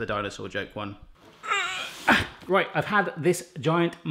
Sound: grunting

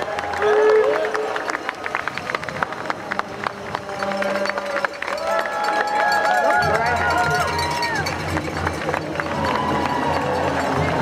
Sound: cheering

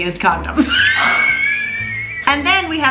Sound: laughs loudly

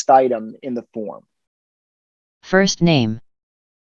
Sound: screen reader voice

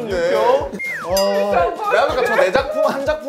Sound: laughing

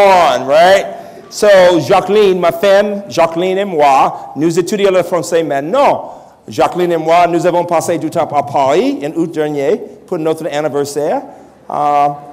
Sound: French language

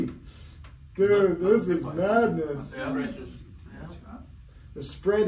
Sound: group murmuring

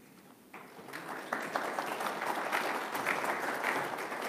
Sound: audience claps

